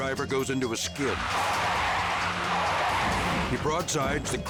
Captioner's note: car skidding